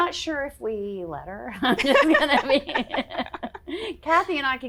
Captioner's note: laughs